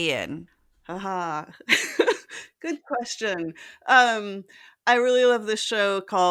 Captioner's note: laugh